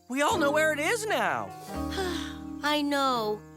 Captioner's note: sighs